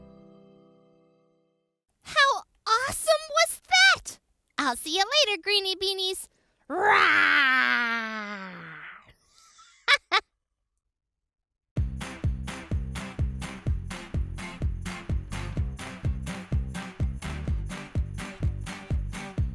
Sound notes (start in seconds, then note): 7.8 laughs; 11.8 upbeat music